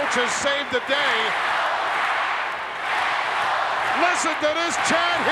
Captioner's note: applause